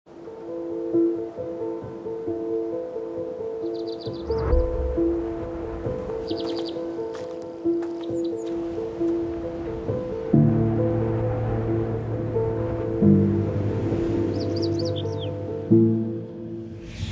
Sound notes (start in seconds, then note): 0.4 gentle music; 9.2 wind rushing; 12.1 gentle music